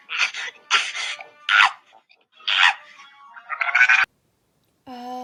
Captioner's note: uncontrolled Panicked Sobbing